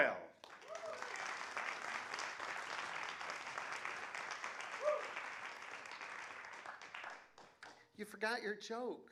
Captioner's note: applause